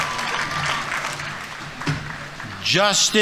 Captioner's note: audience applauding